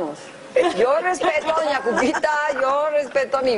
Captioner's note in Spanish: risas